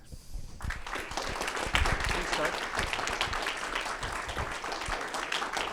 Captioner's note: audience applauding